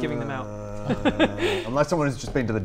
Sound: groan

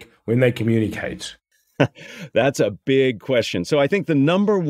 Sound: laugh

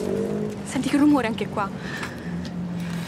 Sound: engine sound

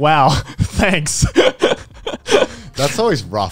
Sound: everyone laughs

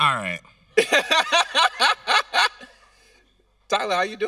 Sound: host laughing

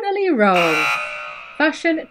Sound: buzzer buzzing

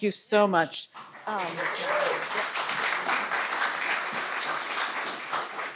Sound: audience applauding

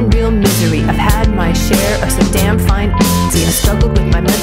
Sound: beep

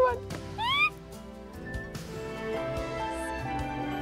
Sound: squeals

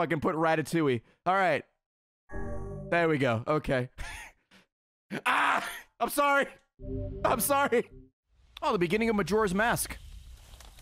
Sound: laughs

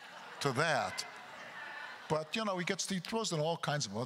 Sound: continued laughter

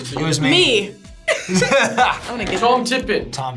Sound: both laugh

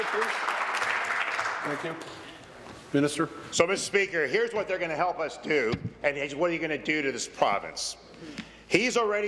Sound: applause

